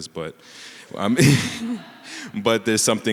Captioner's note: everyone laughing